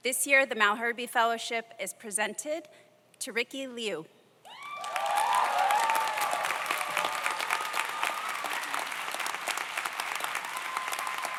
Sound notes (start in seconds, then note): 4.5 audience cheers; 4.6 audience applauds